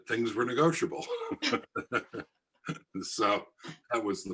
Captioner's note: all laugh